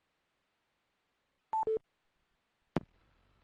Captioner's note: beeps